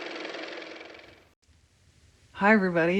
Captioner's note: car motor